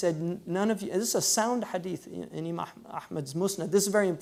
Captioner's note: foreign language